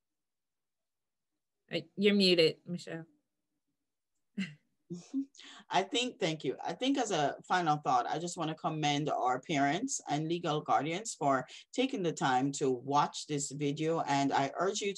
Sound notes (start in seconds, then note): 4.4 chuckles